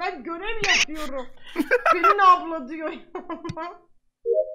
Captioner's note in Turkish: gülerek